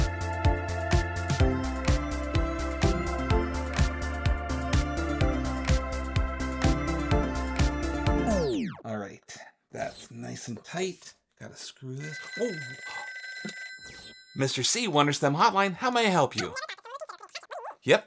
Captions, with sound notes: - Alright, that's nice and tight. Gotta screw this. (telephone ringing) Oh. Mister C, Wunder STEM Hotline, How may I help you? (voice squeaking over phone)